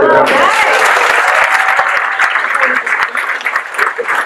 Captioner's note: guests cheer